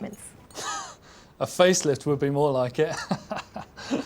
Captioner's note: laughing